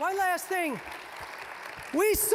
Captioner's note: applause